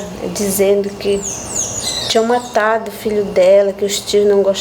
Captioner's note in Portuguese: pássaros cantando